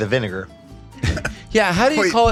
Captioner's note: Rob chuckles